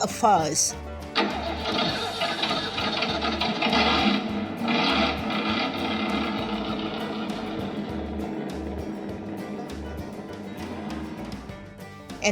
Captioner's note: vroom! vroom!